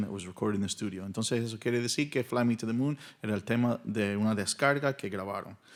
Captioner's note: speaking in Spanish